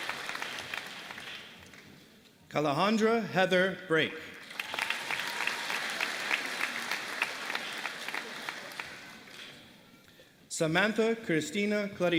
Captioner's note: applause